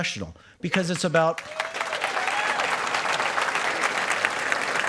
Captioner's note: applause